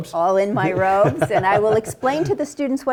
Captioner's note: laugh